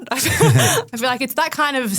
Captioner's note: group laughing